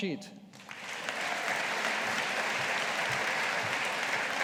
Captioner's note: audience applauding